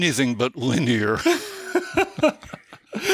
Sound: chuckle

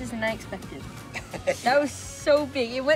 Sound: laughter

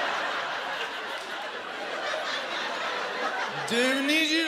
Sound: laughter

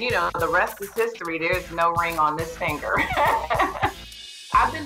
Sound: laughs

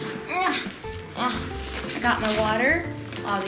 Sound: grunts

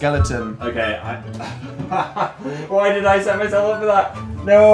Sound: laughs

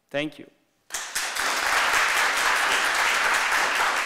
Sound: applause

